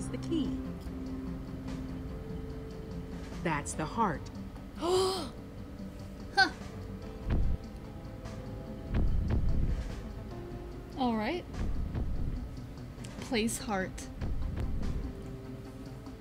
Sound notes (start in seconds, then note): 4.8 gasps